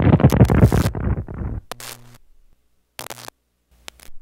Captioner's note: static noises